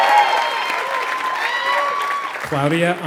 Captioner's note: applause